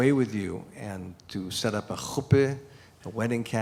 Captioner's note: non-english speech